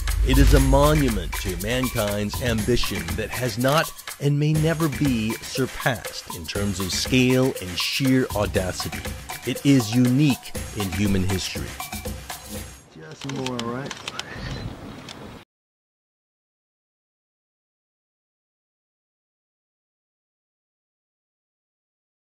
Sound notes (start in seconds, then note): 13.2 camera flashes